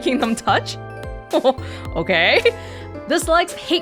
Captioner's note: chuckles